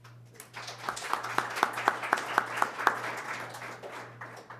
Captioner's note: applause